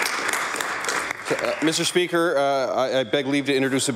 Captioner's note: applause